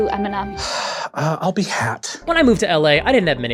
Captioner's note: sighs in defeat